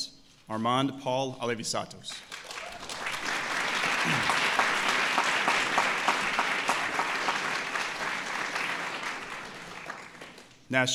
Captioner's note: applause